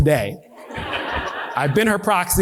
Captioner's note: audience laughing